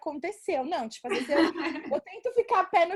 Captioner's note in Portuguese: risos